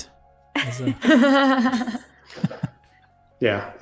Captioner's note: laughter